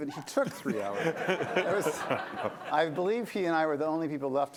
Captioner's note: laughter